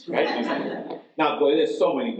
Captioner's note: audience laughs